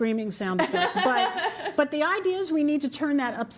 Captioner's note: laughter